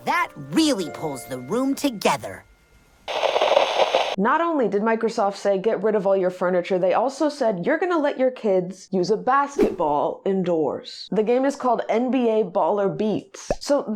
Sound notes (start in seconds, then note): 3.0 TV static; 13.4 pop